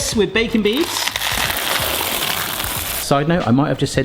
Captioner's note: beads trickling